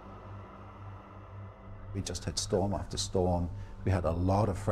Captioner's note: voiceover